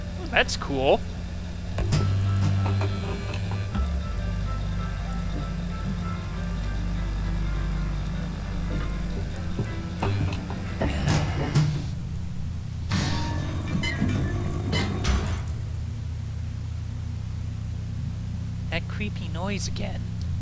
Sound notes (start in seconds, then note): 2.7 train clattering; 12.7 metallic, squeaking noises